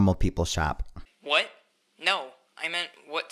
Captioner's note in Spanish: Voz en off